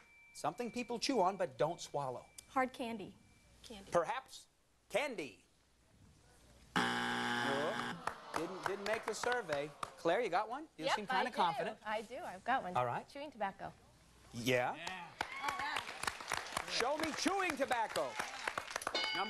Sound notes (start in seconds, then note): 6.7 buzzer